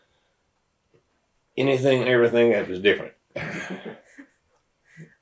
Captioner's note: laughter